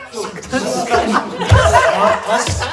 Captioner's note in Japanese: 笑い声